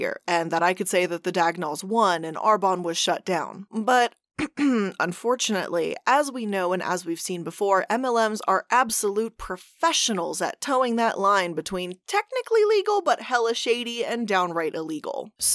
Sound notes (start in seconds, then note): 4.4 clears throat